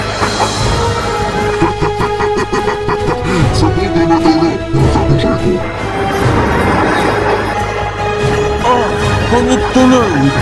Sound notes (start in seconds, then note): 1.3 laugh